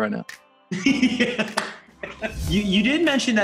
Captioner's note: laughs